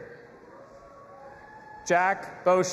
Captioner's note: audience applauding and cheering